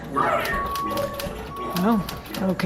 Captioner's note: beeping sound of loader frame reversing